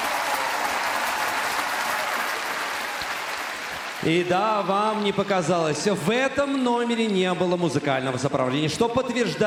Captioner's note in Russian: ликование; аплодисменты